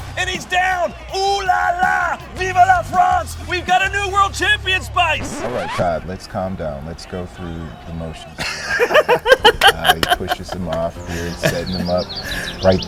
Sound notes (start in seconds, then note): 8.3 laughing